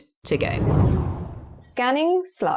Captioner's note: video effect whooshes